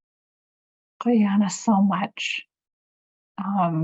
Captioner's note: speaking in Native language